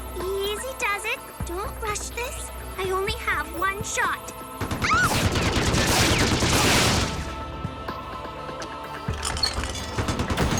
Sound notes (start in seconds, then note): 4.6 rapid gunfire; 4.8 shrieks